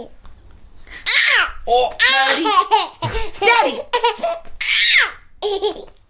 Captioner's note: happy baby sounds